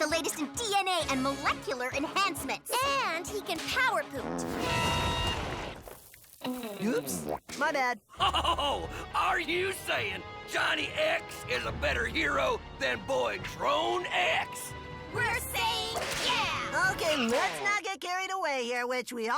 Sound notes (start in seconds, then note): 4.2 farts; 8.2 laughs